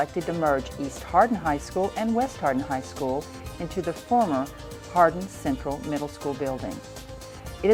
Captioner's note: none